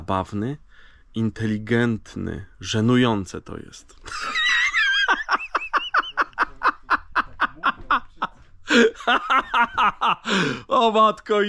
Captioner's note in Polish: śmiech